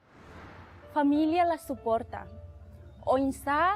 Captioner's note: non-english speech